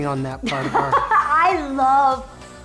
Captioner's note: laughs